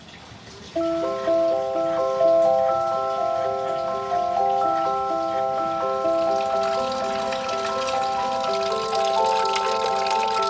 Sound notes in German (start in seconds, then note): 0.7 Perlende Musik; 3.0 Plätschern